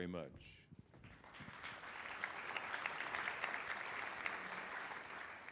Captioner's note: applause